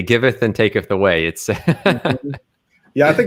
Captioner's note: laughs